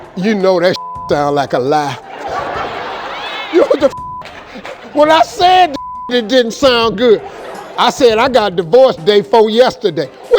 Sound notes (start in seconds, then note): 0.7 beep; 1.8 audience laughing; 5.7 beep; 6.9 audience laughing